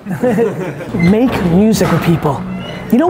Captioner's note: guys laugh